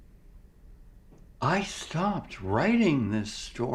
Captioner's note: none